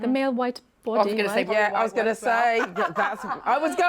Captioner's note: laughs